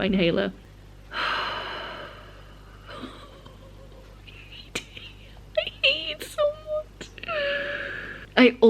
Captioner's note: sigh and laughter of regret